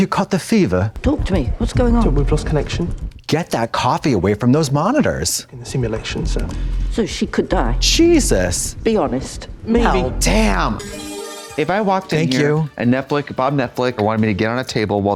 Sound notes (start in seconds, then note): 10.2 bright chime